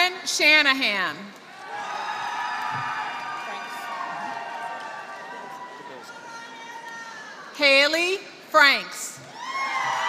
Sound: applause; applause

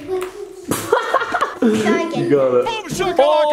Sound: laughs

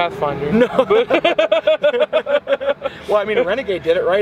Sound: both laughing

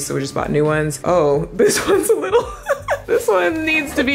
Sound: laughing

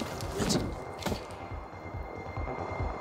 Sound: oncoming train

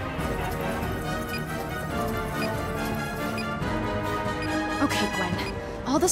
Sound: beeping

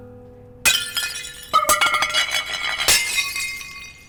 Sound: falling Plates crashing

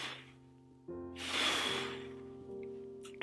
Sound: blowing

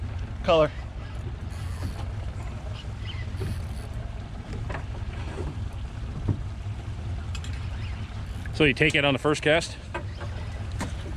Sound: reel cranking

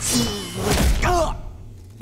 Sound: grunting

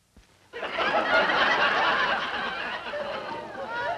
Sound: laughter

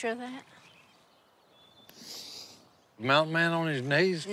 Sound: sniffing

